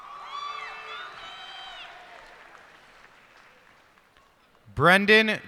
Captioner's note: cheers and applause